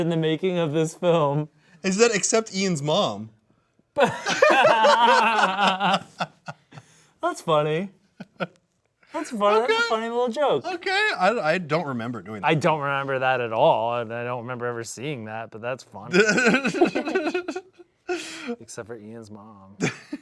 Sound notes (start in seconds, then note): 4.0 laugh; 16.1 laughs